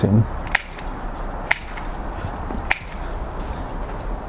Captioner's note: pruner snipping